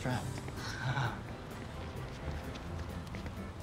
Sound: scoffs

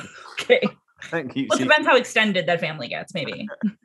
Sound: laughs

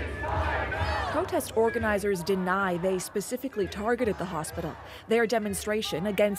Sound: chanting

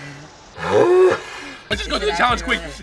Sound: hard exhale

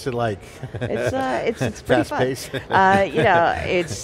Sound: laughs

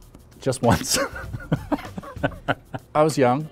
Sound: laughing

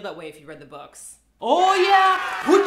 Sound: cheering and clapping

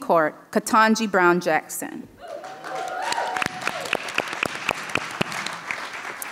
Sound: audience applauding

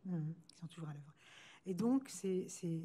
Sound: speaking french

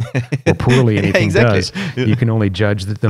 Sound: laughter

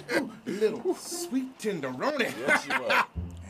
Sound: laughing

